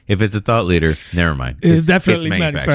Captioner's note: uh